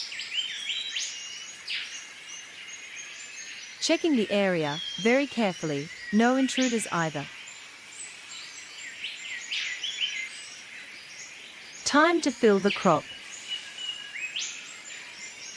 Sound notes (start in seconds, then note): 0.1 birds sounds and chirps; 7.5 birds sounds and chirps